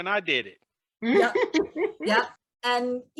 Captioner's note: student laughs